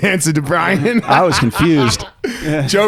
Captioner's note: laughing